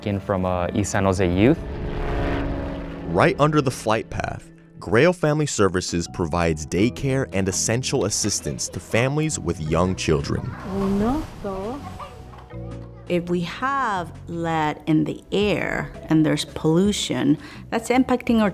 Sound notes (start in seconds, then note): 11.4 speaking foreign language